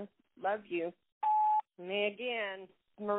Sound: phone beeps

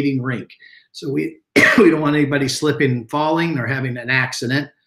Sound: coughs

